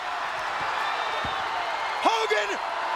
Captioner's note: audience cheering